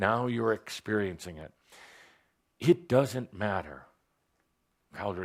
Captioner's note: none